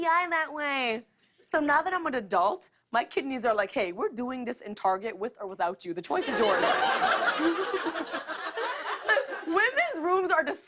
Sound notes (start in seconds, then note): 6.2 laughter